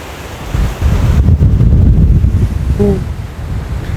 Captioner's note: wind kicks up